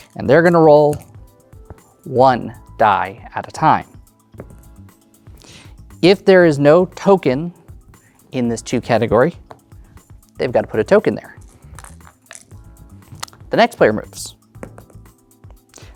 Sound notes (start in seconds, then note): 4.0 dice rolling; 11.3 dice clattering; 14.6 dice rolling